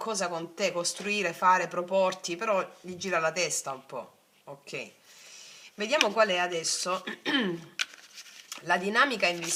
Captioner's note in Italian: schiarire la voce